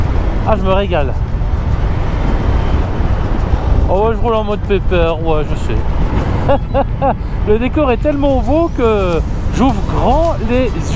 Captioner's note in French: rire